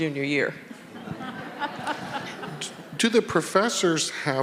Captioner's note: audience laughing